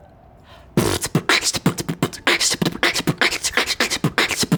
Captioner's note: beatboxing